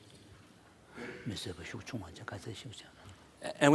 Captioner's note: foreign Language